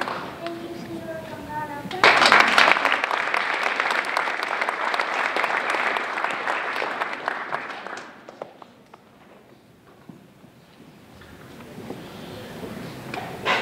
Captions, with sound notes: - Thank you Senora Gambara. (applause)